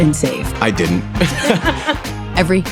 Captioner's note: laughter